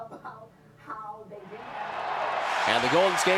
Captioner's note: crowd cheering